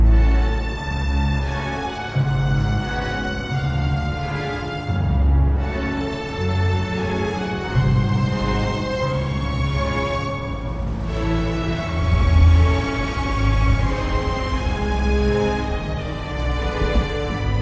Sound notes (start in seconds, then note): 12.1 water rushing